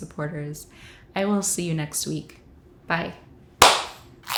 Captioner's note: clap